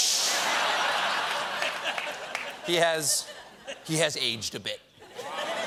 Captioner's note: laughter